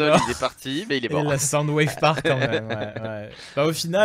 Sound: laughs

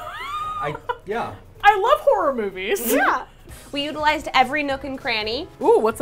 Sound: laughs

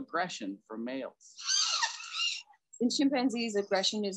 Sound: bonobos screeching

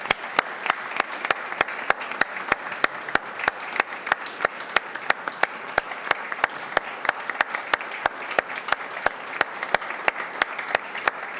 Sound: applause

